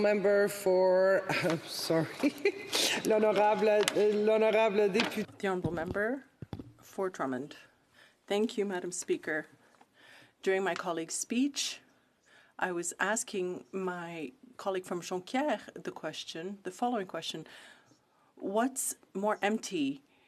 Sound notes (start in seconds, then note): 8.2 speaking French